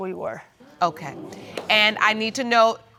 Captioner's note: audience exclaiming